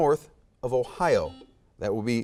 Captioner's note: buzzer beeps